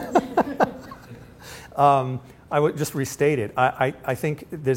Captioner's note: laughs